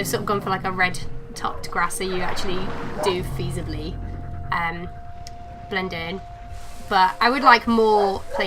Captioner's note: dog barking in background